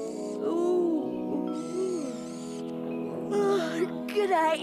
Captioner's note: yawns